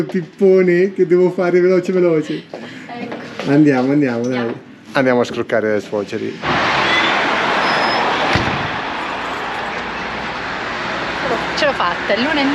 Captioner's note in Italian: Applauso